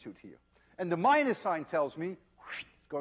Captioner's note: wssshhht